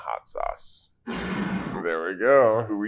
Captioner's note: bottle scrapes